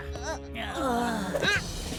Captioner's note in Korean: 모두 신음